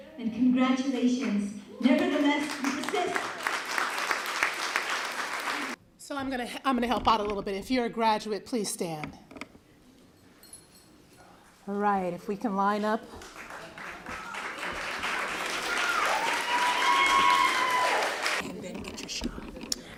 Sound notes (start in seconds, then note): 3.6 applause; 13.2 applause, cheering